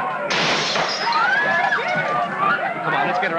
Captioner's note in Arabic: صراخ الحشد; انفجارات البندقية; تحطيم الزجاج